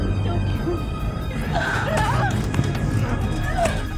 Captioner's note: screaming